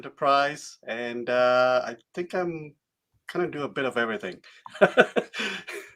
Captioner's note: laughing